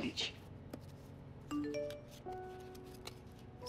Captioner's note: Cell phone beeps